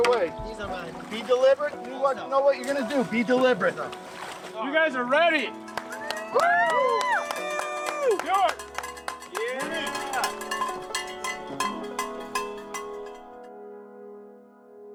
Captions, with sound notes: Let's not piss it way. Be deliberate. You know what you're going to do. Be deliberate. You guys are ready! [Cheering] Yeah! [Cowbell ringing]